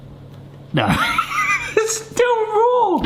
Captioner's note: laughs